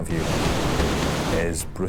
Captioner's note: water crashes